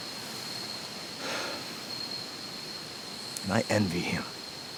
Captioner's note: officer sighs